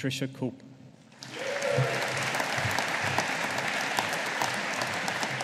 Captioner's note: audience applauding